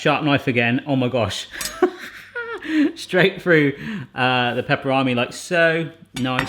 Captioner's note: laughs